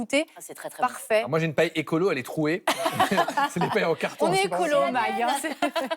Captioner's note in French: rires